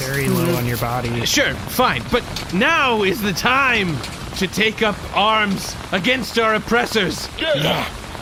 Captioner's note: tetchily